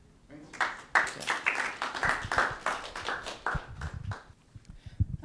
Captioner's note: audience clapping